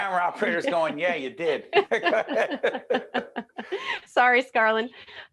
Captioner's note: laughing